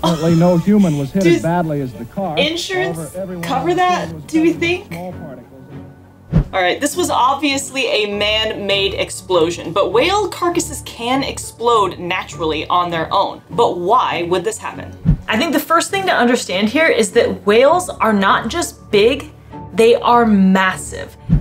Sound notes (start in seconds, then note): 3.7 person in clip talking in background; 5.0 background music; 5.0 person in clip talking in background